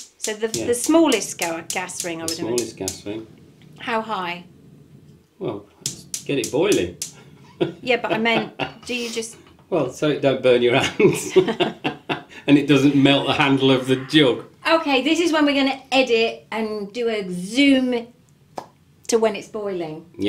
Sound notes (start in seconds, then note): 7.5 laughs; 11.8 laughs